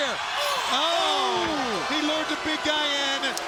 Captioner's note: commentators exclaim